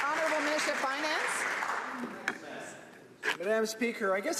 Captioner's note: some Applause